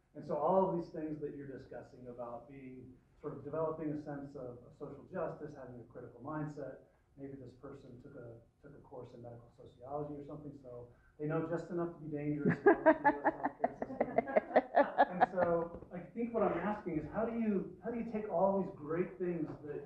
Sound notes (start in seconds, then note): 12.4 laughter